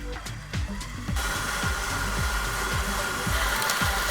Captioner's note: mixer whirs